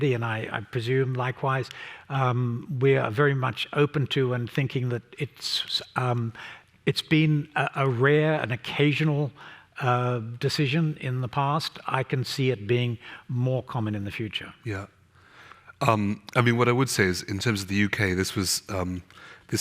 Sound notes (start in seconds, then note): none